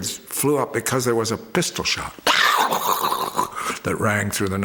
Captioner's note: mimics gunshot